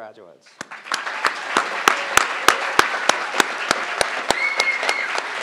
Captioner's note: crowd applauding